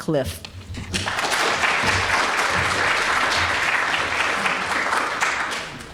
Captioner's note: audience applauding